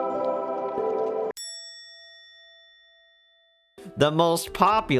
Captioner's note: comedic bell sound